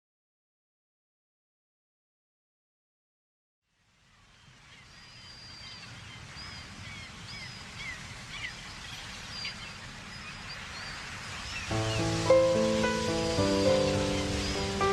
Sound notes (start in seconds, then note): 4.1 birds chirping; 6.8 seagulls calling; 11.6 soft piano music